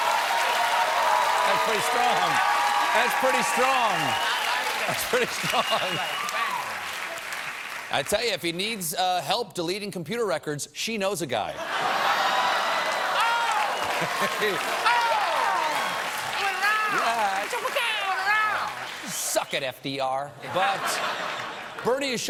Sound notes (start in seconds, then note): 0.0 cheers and applause; 12.2 applause; 20.4 laughter